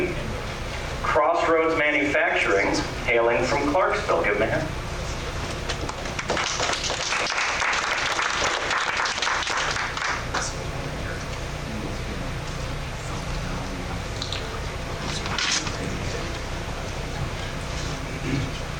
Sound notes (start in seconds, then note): 4.2 clapping